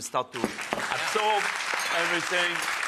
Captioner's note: audience applauds